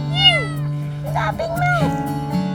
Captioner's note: kitten mews